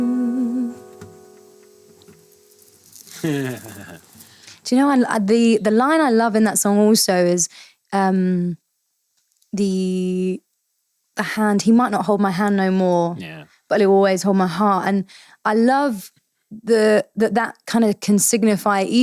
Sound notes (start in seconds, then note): 2.4 bracelet jingling; 3.1 laughing